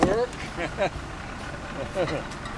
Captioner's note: laughs